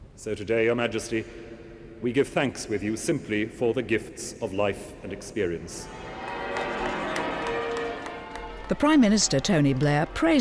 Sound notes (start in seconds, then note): 5.8 crowd cheering; 6.1 bells ringing